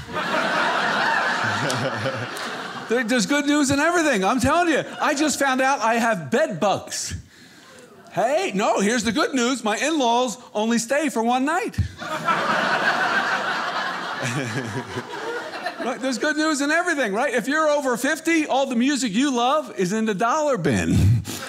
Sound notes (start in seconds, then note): 0.0 audience laughing; 12.0 audience laughing